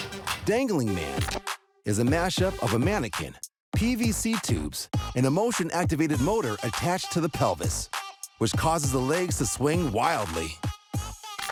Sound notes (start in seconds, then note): none